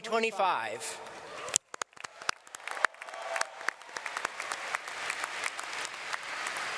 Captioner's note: students and audience clapping